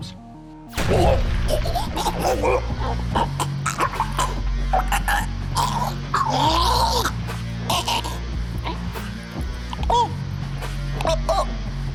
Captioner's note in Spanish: sonidos de jadeos, respiración fuerte, arcadas